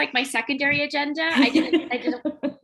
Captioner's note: laughter